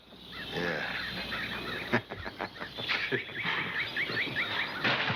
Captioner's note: laughing